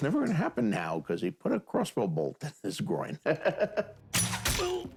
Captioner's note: laughs